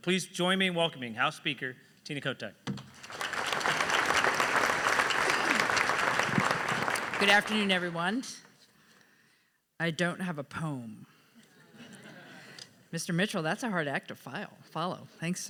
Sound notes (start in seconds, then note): 2.9 audience applauds; 11.6 audience laughs